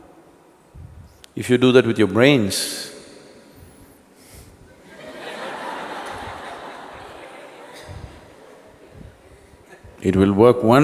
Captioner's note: laughter